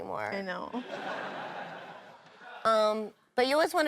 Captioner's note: audience laughs